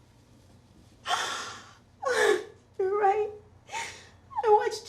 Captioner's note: she cries